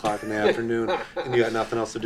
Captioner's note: laughing loudly